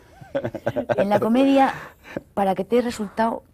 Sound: risas

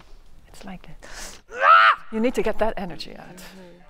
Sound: screams

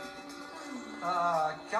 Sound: sighs

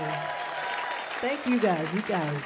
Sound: audience cheering

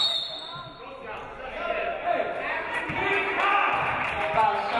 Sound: referee blows whistle

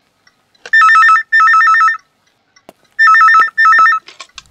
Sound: phone rings

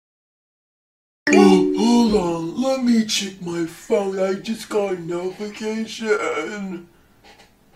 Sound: phone notification

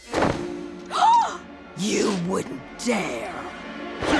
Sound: gasping

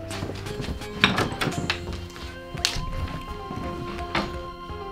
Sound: door opens

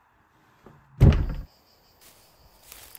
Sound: door shuts

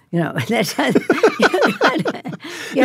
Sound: both laugh

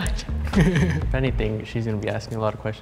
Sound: both laughing

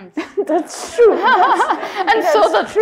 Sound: laughs

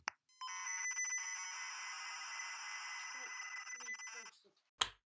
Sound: modem screeching

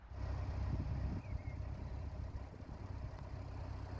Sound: Sound: Narrowboat Diesel engine

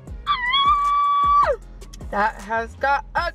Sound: shrieks

